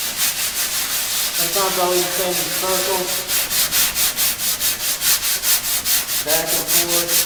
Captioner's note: drowned out by sanding